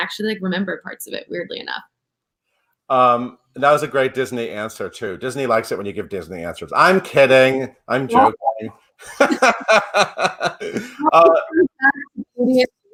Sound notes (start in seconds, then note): 9.0 laughs